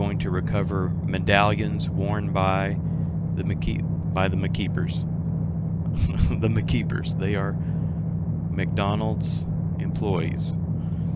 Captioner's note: chuckles